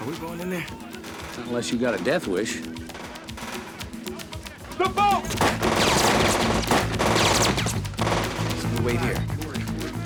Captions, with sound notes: - Are we going in there? - Not unless you got a death wish. (automatic gun firing) - The boat! (gunfire) - So we wait here?